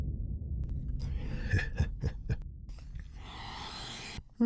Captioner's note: laughing